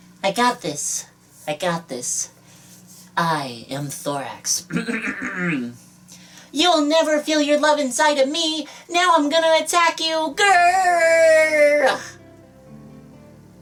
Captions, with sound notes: I got this, I got this, I am Thorax. *clears throat* *attempting to talk like Thorax* You'll never feel your love inside of me! Now I'm gonna attack you! Grrrrr